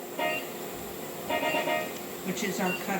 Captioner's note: medical device beeps